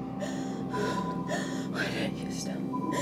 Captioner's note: ominous music; gasps